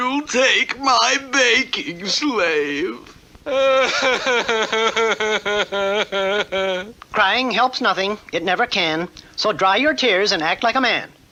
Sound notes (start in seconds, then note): 3.4 King Cup cries hard